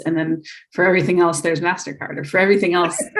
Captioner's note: laughs